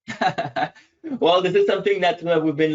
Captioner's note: laughs